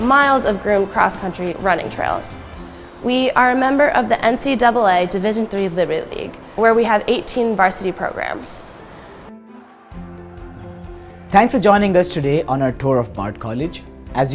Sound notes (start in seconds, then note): 9.5 cheering